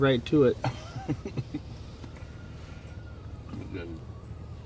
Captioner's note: laughs